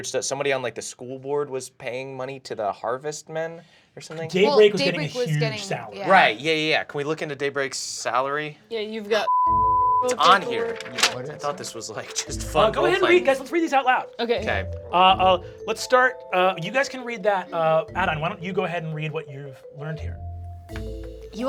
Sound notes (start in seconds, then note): 9.3 beep